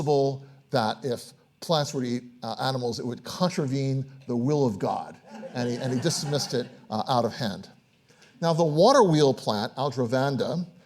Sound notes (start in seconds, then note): 5.2 audience laughs